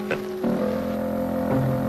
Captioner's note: laughs; chuckles